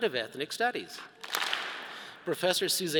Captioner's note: all clap